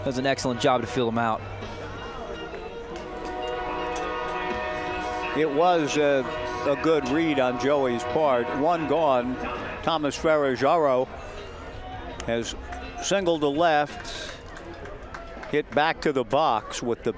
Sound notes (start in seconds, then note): 3.2 train whistle blowing